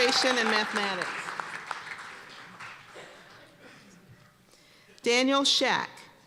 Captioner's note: cheers and applause